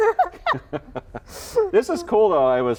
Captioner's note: laughing